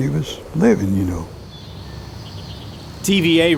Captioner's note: birds chirping